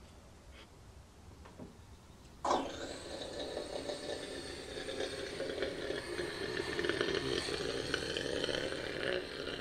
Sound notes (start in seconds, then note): 2.7 making rocket noises